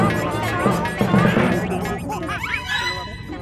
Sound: chattering

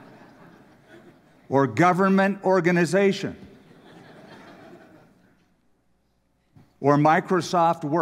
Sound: laughter; laughter

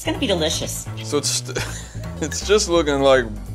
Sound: laughs

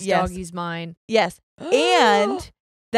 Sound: gasps

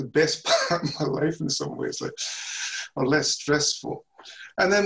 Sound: chuckles

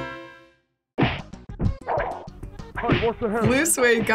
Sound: quirky interlude; fighting sound effects

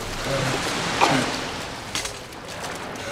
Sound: coughs

